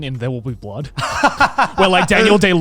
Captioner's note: laughs